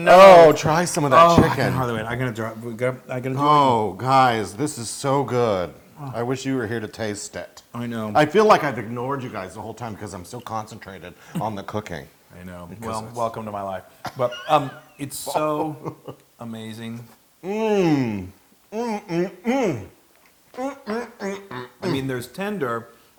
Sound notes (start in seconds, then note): 14.1 laugh